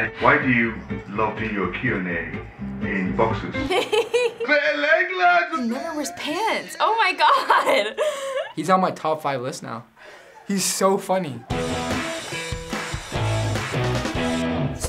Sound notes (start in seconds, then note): 3.5 laughs; 11.5 punk rock music